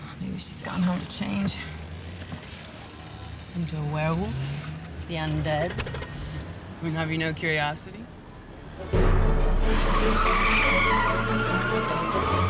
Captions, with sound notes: Maybe she's gone home to change... Into a werewolf. - The undead? - [engine starts] I mean, have you no curiosity? [tires screech]